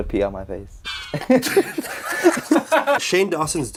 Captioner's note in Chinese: 尷尬笑